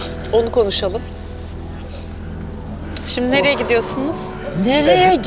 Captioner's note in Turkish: homurdanır